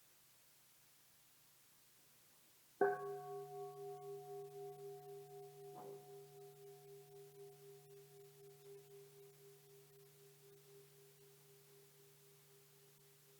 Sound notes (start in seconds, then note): 2.9 bell dinging